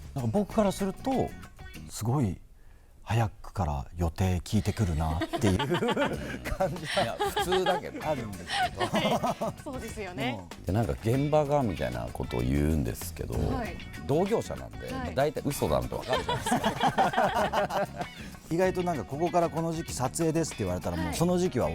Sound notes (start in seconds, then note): 16.0 laughs